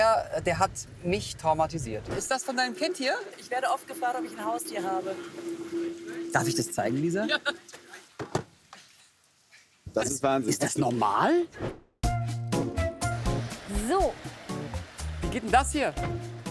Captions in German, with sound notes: Der hat mich traumatisiert. Ist das von deinem Kind hier? Ich werde oft gefragt, ob ich ein Haustier habe. Darf ich das zeigen, Lisa? - (lacht:) Ja. Wahnsinn. - Ist das normal? (Heitere Musik) So. Wie geht denn das hier?